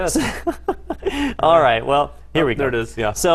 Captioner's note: laugh